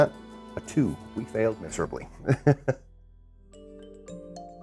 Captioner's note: chuckles; mysterious music